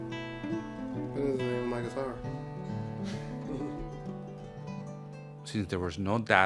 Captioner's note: laughs